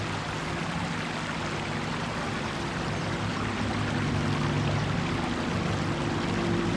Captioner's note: water burbling